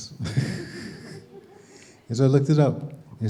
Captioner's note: raspy laughing